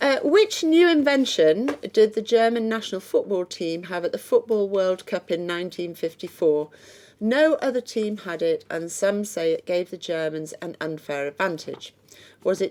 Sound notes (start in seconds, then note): none